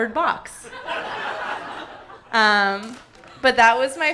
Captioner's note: audience laughing hysterically